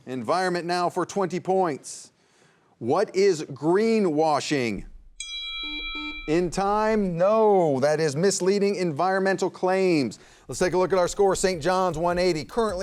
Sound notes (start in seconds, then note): 5.2 bell dinging; 5.6 buzzer buzzing; 11.6 light music